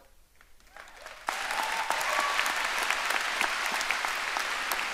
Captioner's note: audience applauding